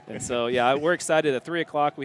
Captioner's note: laughter